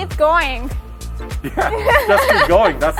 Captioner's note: both laughing